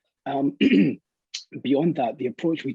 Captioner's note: clears throat